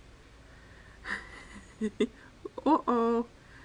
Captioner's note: laughing